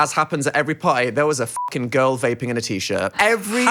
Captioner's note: beeps